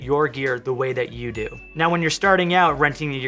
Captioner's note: bell dinging